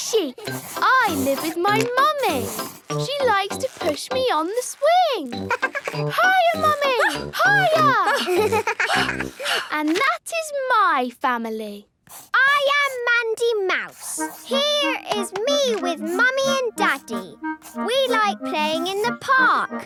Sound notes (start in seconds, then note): 5.4 giggles; 7.5 panting